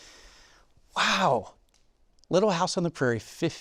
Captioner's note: takes deep breath